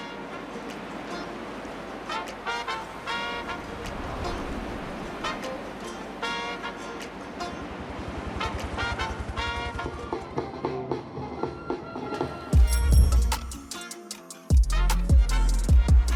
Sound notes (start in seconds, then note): 8.3 helicopter; 12.6 bike bell rings